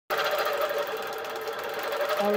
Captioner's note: machine whirring